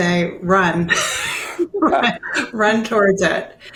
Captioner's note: multiple people chuckle